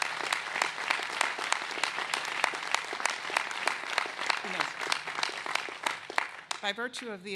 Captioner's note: applause